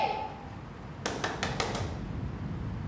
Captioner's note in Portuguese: luiza batendo na porta